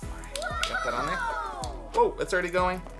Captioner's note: children cheering